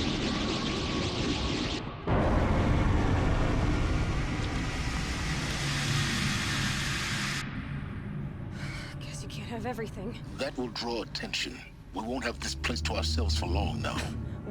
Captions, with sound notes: (sigh) Guess you can't have everything. That will draw attention. We won't have this place to ourselves for long now.